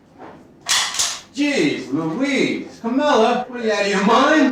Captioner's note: cocks gun